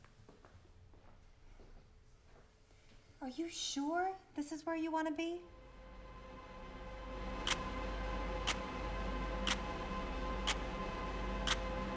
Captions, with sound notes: - Are you sure this is where you want to be? (dramatic music) (clock ticking)